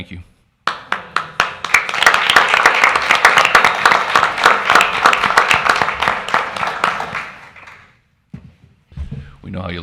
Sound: crowd applauds

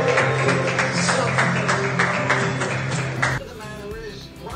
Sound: soft cheerful music; crowd clapping

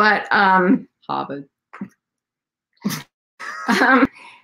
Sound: laughing

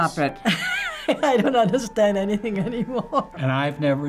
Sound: laughs

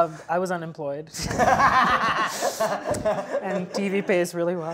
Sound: laughing

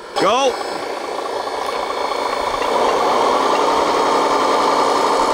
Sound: engine chugging

